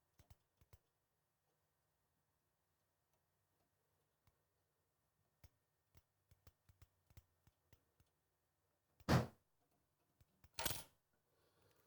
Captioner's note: wood Thuds